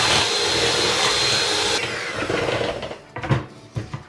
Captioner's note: mixer sound